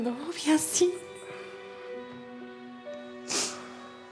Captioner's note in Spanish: sollozos